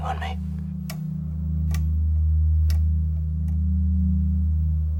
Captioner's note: light clicks